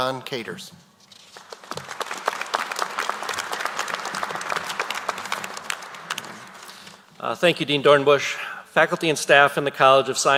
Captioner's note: applause